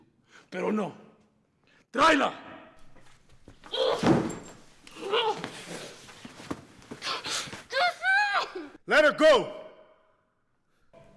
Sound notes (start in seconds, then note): 0.1 Spanish; 5.0 Suzette grunts